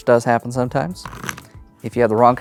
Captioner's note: cards riffling